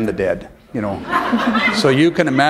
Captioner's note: laughter